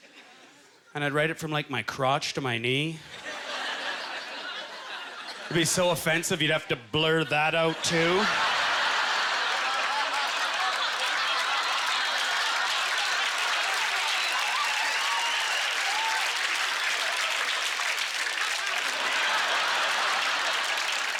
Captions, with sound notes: crotch to my knee. (Audience laughter) It'd be so offensive, you'd have to blur that out too. (Audience laughter) (Applause)